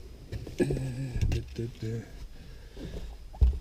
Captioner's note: man hums